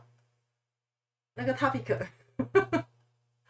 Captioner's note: haha